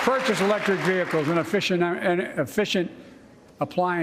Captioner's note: applause